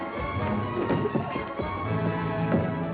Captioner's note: scuffling